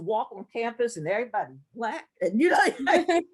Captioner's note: laugh